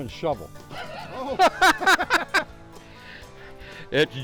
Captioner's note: chuckle}